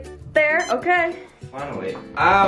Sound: machine beeps

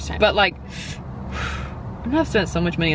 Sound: breathes in and out

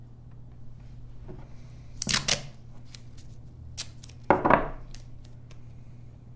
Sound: tape ripping

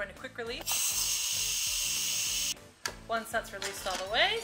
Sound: steam hissing

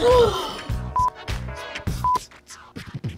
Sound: gasps

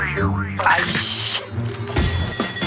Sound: old man's joints breaking

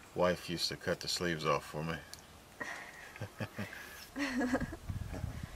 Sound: chuckles

